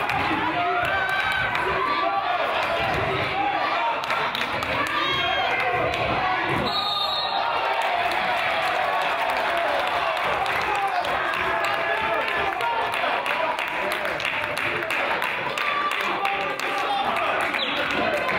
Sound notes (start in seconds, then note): 0.8 claps; 4.0 claps; 6.6 whistle blows; 7.4 crowd applauds; 14.3 crowd yells and groans